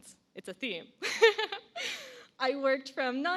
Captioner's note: laughs